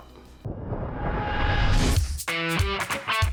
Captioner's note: whooshing; fast music